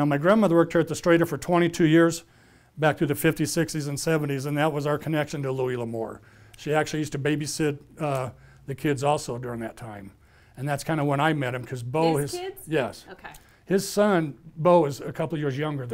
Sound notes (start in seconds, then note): none